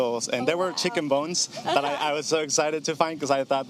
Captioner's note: laughing